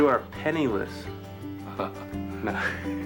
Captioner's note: chuckles